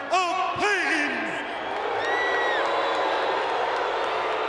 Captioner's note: crowd booing